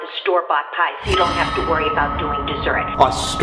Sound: ominous sound

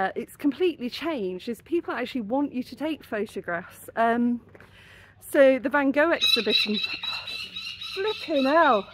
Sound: screaming seagulls

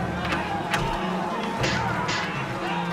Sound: thud

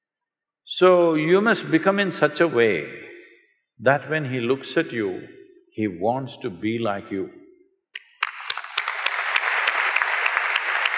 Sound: applause

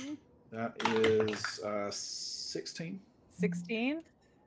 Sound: dice clacking

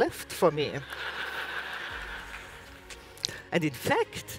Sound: audience laughs

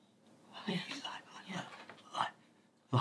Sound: stuttering

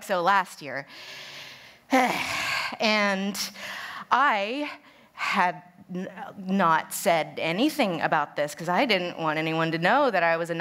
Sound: deep Sigh

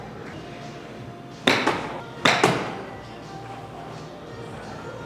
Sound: ball thuds

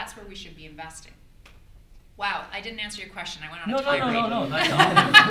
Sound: audience laughter

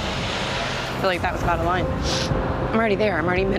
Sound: sniffs

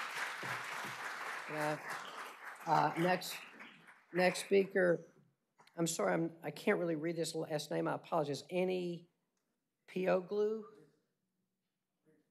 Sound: applause

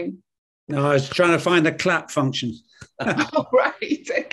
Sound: laughs

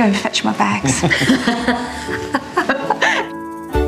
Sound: all laugh

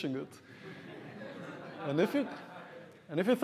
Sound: audience laughs

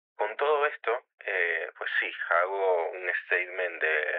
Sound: speaking Spanish

